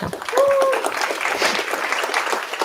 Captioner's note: applause; cheering